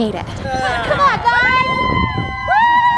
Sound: cheering

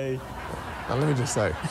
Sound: audience laughing

